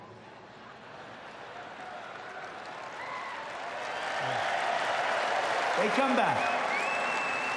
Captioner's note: laughter and applause